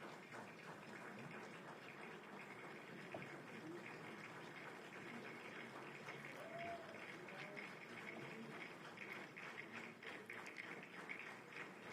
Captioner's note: applause